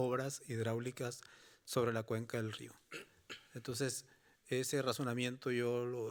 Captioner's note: speaking Spanish continues